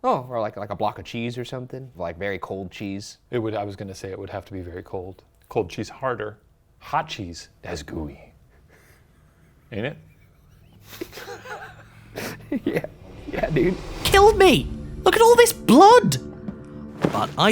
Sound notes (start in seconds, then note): 9.0 laughs; 14.6 ominous music